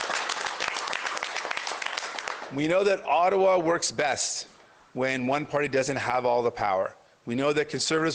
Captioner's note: applause